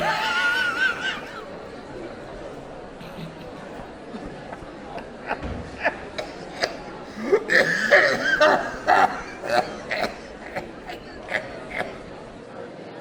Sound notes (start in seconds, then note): 4.1 laughs